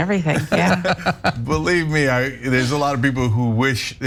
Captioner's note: laugh